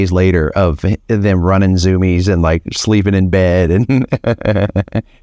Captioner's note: laughs